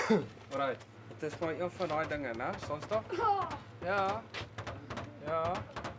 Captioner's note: hunters speaking in foreign language